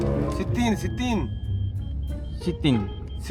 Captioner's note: speaking Arabic